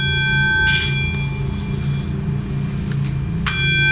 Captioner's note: bowl ringing